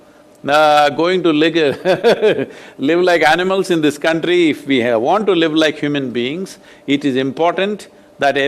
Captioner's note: laughs